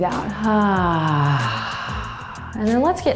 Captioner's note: sighs